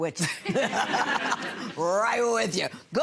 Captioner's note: gallery laughs